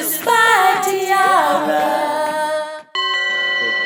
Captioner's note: bells clinging